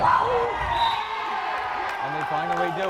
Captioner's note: whistle blares